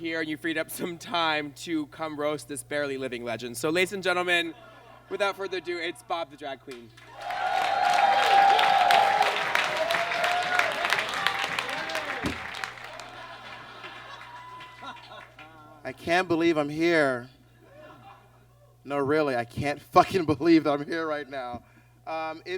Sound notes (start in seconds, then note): 6.9 audience cheers and claps; 12.2 book thumps